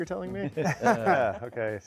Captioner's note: panelists laughing